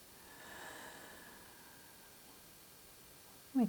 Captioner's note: exhales